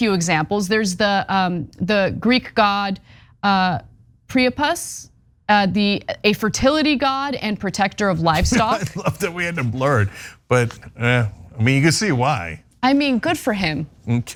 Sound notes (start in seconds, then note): 8.3 laugh